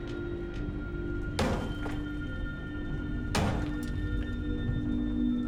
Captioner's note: hammer banging